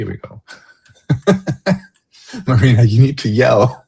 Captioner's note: laughter